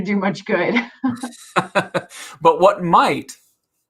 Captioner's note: both laughing